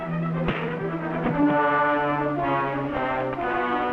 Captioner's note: fist thuds